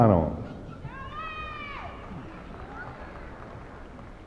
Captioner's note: applause